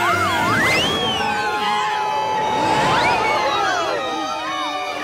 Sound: screaming

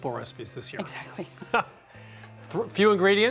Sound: chuckling

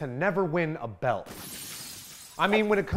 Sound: glass shatters

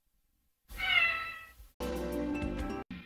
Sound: Mimsie mewing

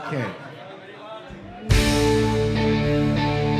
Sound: laughter

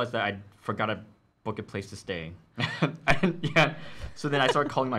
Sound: laughs

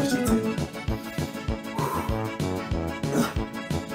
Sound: heavy breathing

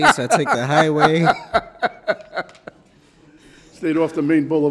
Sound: judge laughs

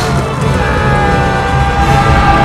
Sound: yells

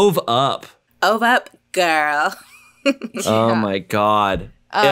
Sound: laughs

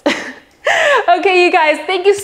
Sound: laughs

